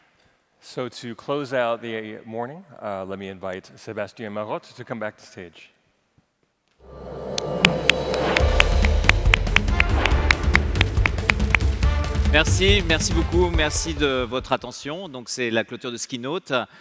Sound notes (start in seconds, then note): 8.4 applause; 14.6 speaking french